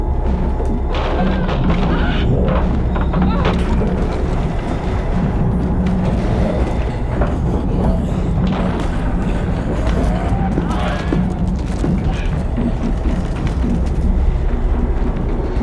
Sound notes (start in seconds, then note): 0.9 banging